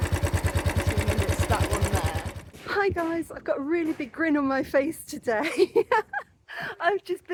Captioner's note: laughter